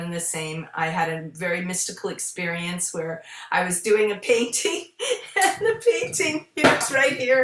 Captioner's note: laughing